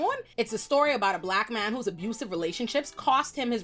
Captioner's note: none